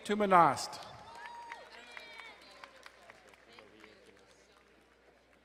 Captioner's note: crowd cheering and applauding